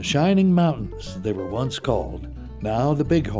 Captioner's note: voiceover